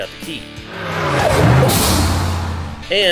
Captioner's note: car engine rumbling